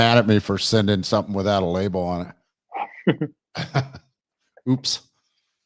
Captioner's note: chuckles